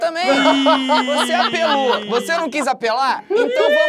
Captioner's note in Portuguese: risadas